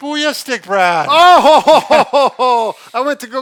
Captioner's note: laughing